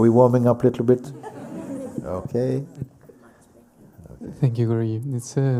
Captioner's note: laughter